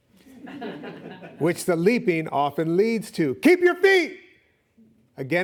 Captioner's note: audience laughing